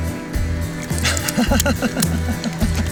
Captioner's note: laughing